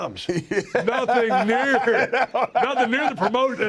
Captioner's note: laugh